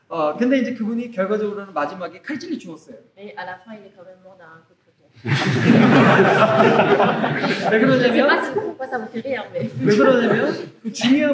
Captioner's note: audience laughter